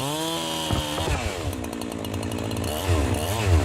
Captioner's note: loud cracking